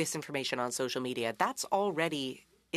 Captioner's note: speaking French